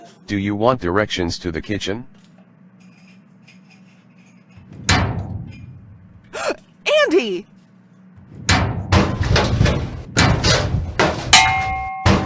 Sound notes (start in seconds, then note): 4.6 metallic thump; 8.2 metallic thumpings and crashings